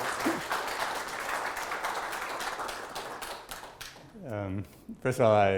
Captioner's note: audience applauding